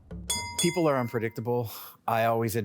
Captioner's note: wrestling bell dings